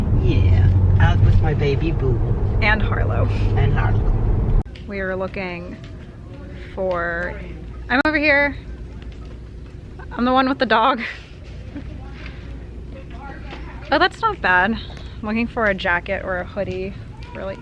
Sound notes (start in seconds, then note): 11.0 laughs; 12.8 customers talking